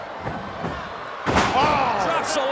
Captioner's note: body thuds